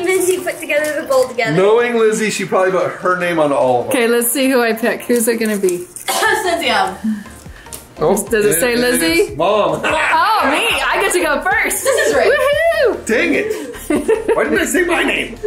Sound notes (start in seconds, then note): 6.0 coughs; 9.8 laughs; 13.5 laughs